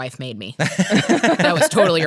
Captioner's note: laughs